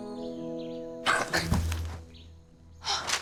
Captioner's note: gasps